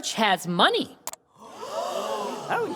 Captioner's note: gasping